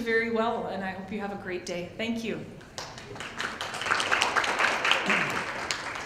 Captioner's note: applause